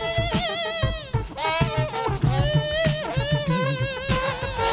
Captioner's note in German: Er macht E-Gitarrengeräusche